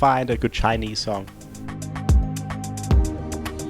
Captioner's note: voiceover